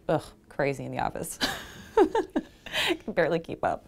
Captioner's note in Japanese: 笑い声